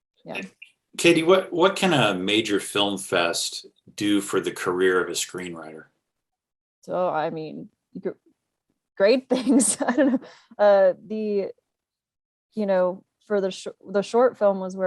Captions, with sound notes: Yeah. - KD, what can a major film fest do for the career of a screenwriter? - So I mean, great things. (laughing) The, for the short film was where we really started,